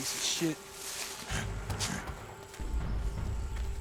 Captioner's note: growling